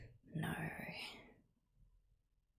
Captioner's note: whispers